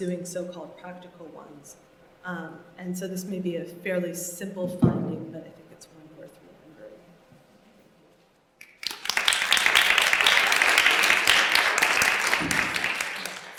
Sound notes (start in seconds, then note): 8.6 applause